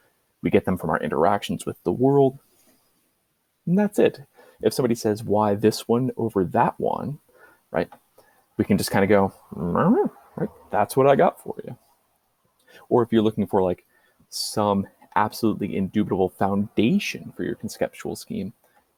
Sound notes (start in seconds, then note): 8.6 confused noise